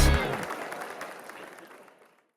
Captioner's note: crowd cheering